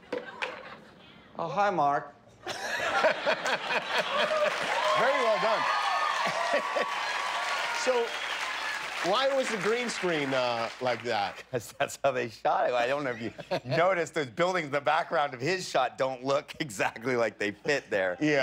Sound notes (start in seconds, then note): 6.2 cheers and applause